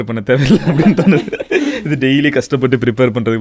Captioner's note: group laughs